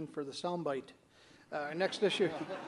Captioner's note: audience laughter